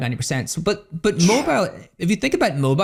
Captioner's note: chuffs